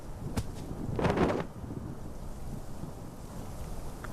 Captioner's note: rustling